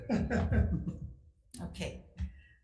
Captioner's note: panel laughs